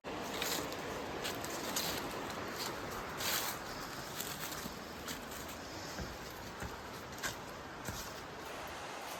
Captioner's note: walking up a set of wooden stairs